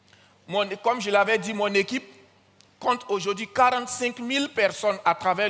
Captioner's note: continues in French